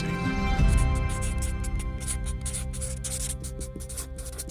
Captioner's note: sketch scratching